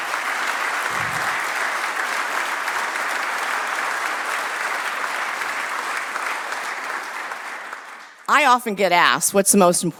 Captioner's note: applause